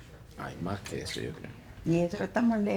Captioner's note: speaks in foreign language